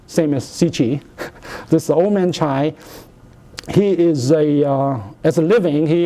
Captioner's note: chuckles